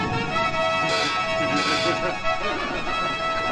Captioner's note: laughing